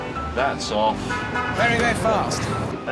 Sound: horn sounds; chatter

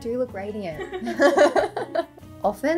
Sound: laughs

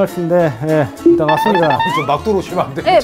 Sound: surprised

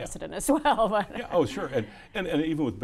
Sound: laughs

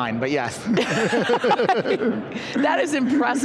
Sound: group laughing

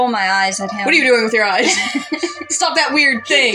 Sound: laugh

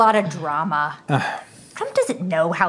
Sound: sigh

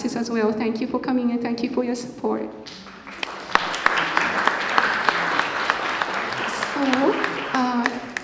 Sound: applause

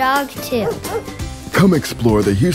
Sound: dog barks

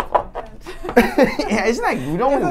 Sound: laughs

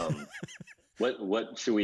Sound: laughs

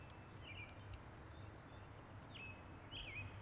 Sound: birds chirping

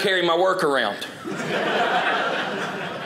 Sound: audience laughing

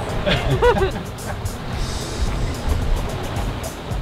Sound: laughing; upbeat music

